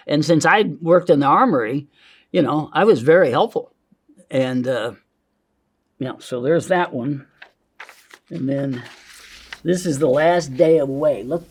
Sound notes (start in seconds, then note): 7.7 paper crinkling